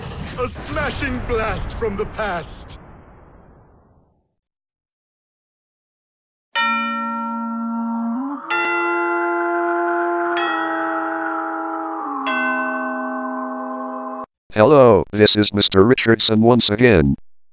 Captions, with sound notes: ...a smashing blast from the past! [silence] [spooky chime playing] Hello, this is Mr. Richardson once again.